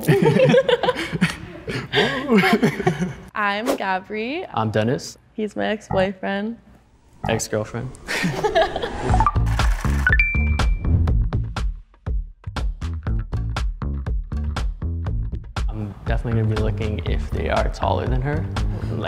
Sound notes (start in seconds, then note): 0.0 group laughing; 0.0 laughs; 8.0 both laughing; 9.8 upbeat music